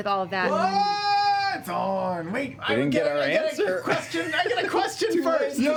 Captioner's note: yelling